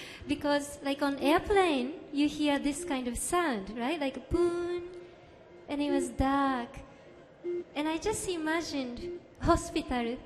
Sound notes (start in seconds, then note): 2.2 beeps